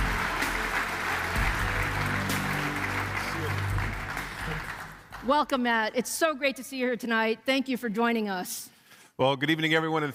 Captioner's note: applause